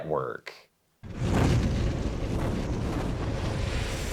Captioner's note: air whooshes